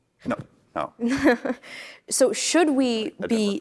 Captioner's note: laughing